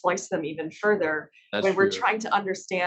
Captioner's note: laughs; professor laughs